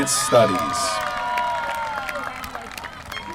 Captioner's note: applause